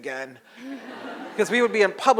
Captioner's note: audience laughs